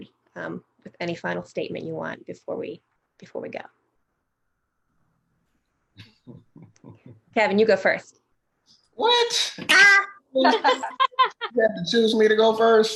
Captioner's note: laughter